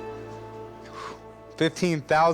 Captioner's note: exhales